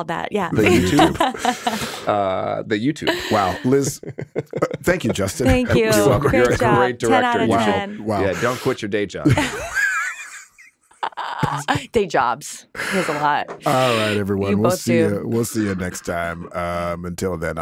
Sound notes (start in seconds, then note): 0.5 laughing; 9.2 all laughing